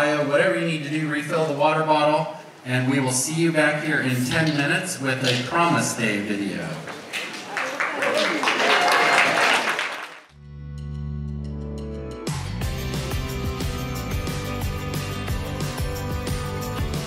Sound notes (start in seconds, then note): 6.8 audience applauds; 10.5 upbeat music